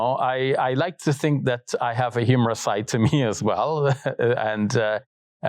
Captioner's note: chuckles